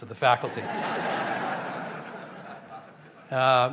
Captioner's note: laughter